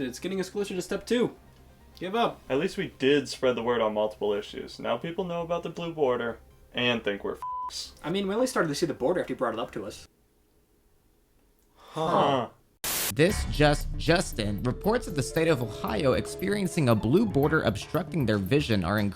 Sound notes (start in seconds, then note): 7.4 beep; 12.8 static crackling